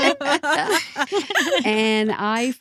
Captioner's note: laughing